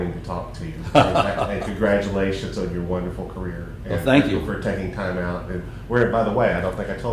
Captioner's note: laughter